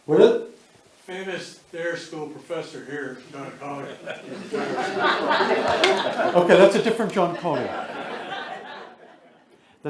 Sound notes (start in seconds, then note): 2.9 attendees laughing; 8.1 attendees laugh